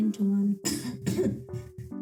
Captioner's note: cough* *cough